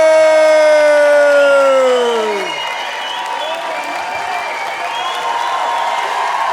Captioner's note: audience cheering and applauding